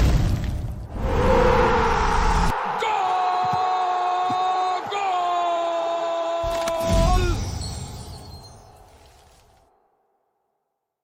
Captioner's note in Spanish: grito